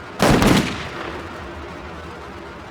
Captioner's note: gunshot